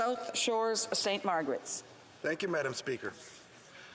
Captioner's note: speaking French